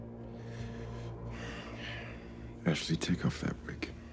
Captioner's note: Homelander sighing